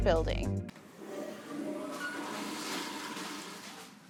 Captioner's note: flushing sounds